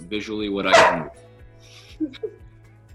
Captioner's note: dog barks; both laugh